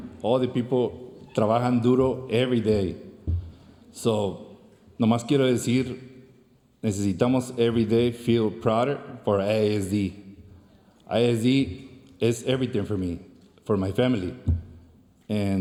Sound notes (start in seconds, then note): 1.4 speaks foreign language